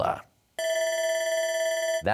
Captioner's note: bell ringing